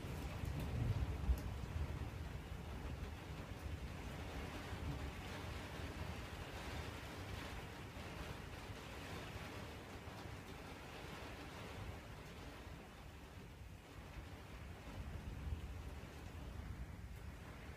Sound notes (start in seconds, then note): 0.1 lighter thunder rumble, rain stays constant; 3.2 rain continues consistently, hail is lighter